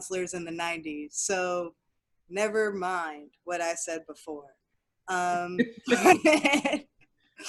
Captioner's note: laughs